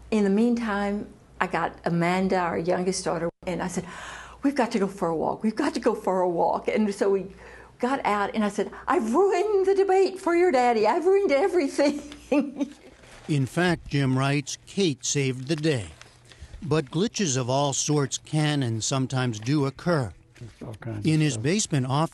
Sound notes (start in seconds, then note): 12.0 laughter